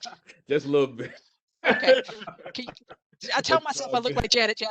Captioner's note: laughs